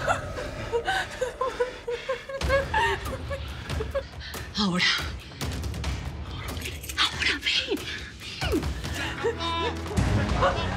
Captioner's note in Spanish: sollozos